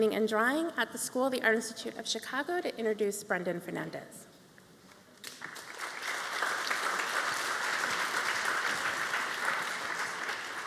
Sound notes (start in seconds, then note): 5.2 applause